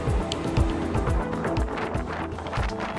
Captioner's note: wind